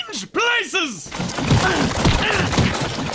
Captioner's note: grunts of pain